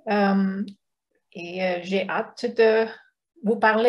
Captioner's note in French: none